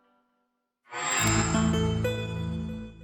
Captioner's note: microsoft sound